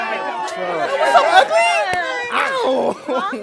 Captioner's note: high voice